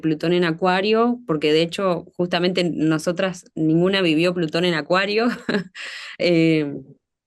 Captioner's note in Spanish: risas